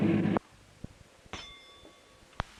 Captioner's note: bell Sound